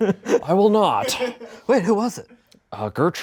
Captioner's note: laughs